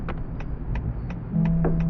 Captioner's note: turn signal clicks on